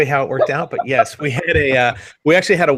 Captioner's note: laughs